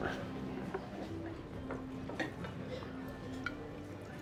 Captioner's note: indistinct chatter